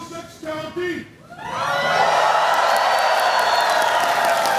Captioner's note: applause